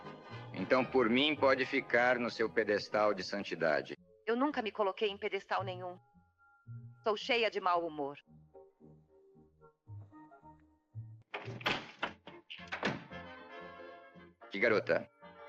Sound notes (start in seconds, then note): 12.6 door clicking shut